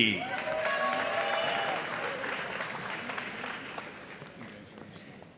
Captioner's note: audience cheering and applauding